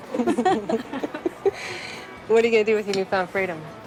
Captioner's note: laughing